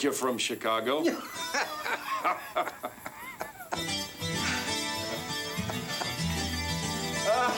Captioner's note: both laughing; lively music